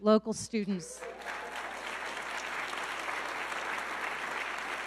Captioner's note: audience clapping